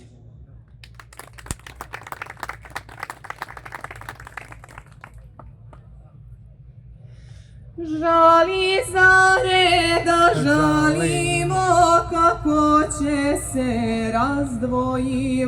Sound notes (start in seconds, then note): 2.6 applause; 14.5 singing